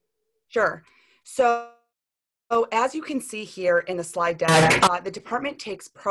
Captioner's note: sharp Noise